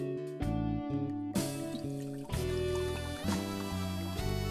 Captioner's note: splashing